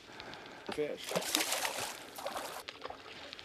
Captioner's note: splash